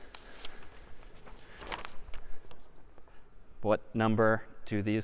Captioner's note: خش خش کاغذ